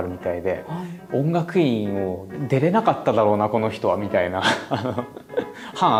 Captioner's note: laughs